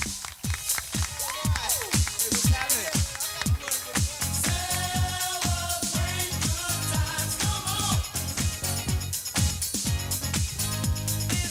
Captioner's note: applause